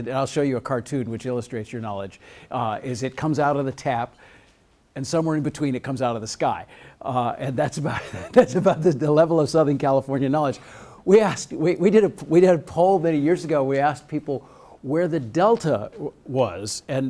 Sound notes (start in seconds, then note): 7.9 laughs